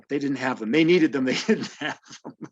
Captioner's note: laughter